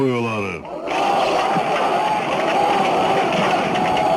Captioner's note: crowd shouting in Arabic